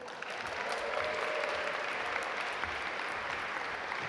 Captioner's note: audience applaud